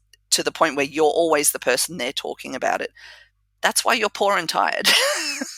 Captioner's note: laugh